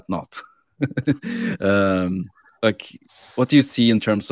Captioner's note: laughing